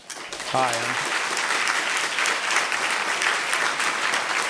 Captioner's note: applause